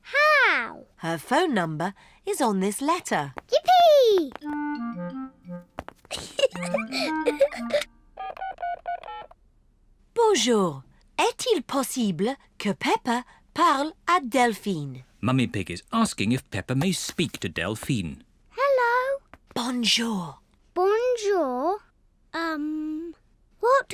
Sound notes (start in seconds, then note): 6.0 giggles; 19.4 whispering